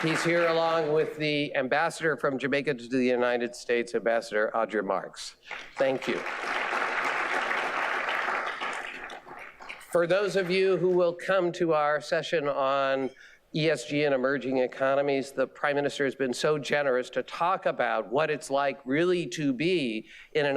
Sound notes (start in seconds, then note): 5.5 audience applauding